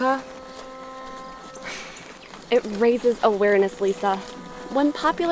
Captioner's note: sighs